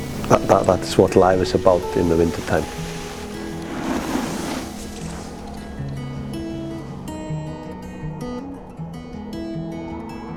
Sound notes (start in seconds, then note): 3.0 skis scraping; 6.2 calm music